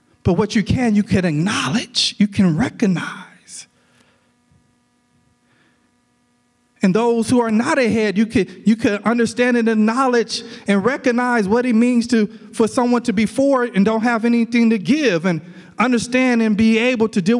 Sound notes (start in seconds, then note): none